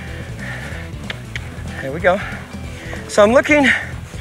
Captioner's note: mouth clicking